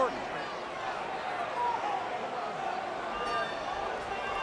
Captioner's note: crowd clamoring